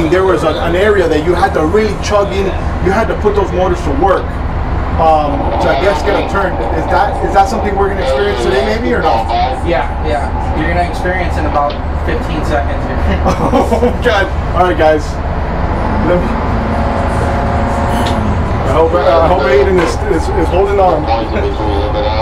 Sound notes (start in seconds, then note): 12.9 laughs; 21.0 laughs